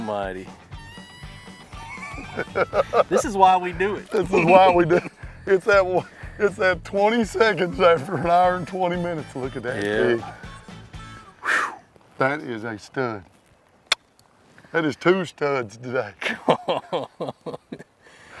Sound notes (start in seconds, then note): 1.6 guy laughing; 11.4 lips swooshing; 13.8 lips smacking; 16.2 laughs